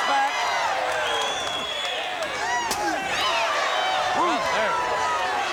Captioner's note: crowd cheering